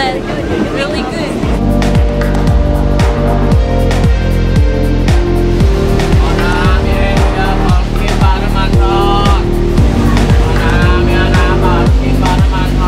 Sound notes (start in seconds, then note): 1.9 upbeat music; 6.3 foreign language